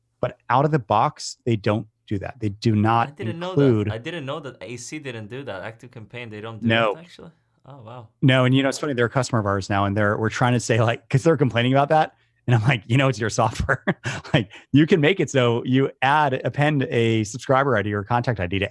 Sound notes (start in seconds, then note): 14.4 laughs